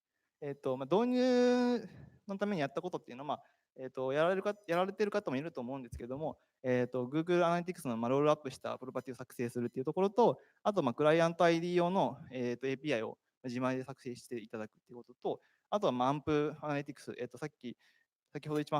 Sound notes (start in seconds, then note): 0.0 speaking japanese; 4.5 speaking japanese